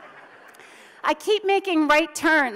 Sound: audience laughs

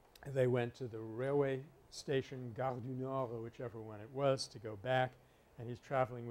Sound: French

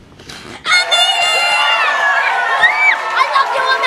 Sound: cheering and applause

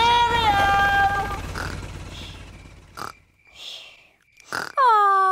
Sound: baby alexander snoring

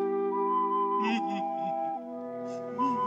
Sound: crying

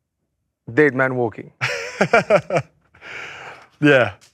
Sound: laughs

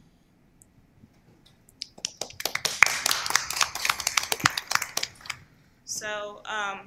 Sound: applause

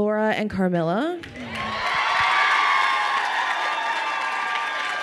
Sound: crowd cheering and applauding

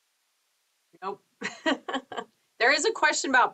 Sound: laughs

